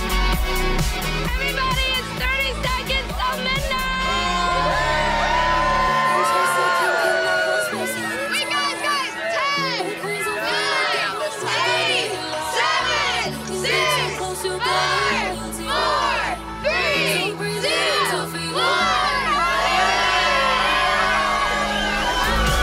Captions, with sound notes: - Everybody, it's 30 seconds to midnight! - [Crowd] Yay! - Wait, guys, guys, 10. - [Crowd] Nine, eight, seven, six, five, four, three, two, one! (crowd cheering)